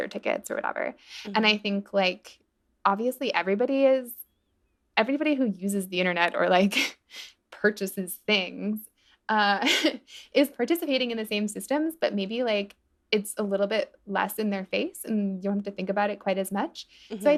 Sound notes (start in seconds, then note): 9.6 laughter